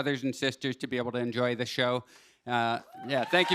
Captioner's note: cheers and applause